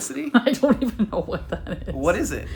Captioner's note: laughing